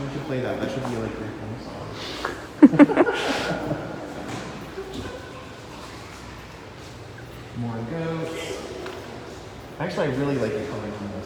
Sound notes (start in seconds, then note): 2.6 laughs